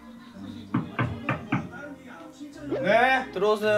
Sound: knock, knock

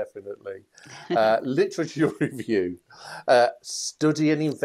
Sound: laughs

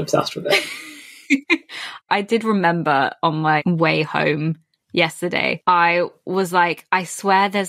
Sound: laughs

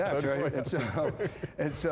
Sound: all laughing

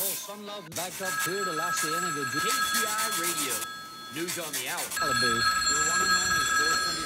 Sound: phone ringing

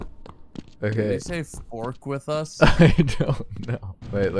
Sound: giggling

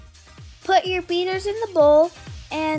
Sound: voiceover

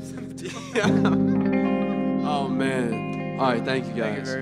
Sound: laughing

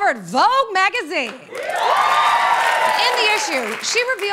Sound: cheering and applause

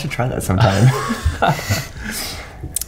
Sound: laughter

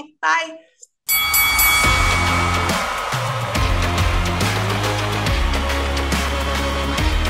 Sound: bell ringing; upbeat music

